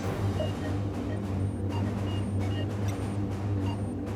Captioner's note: electronic machines beeping